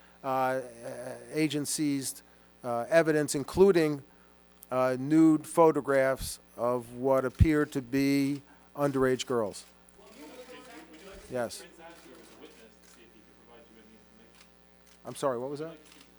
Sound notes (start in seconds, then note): 11.6 audience chatter